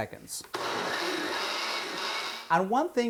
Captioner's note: blender whirring